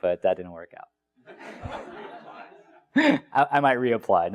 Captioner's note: laugh